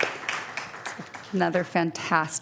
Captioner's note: applause